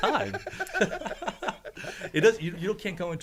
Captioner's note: laugh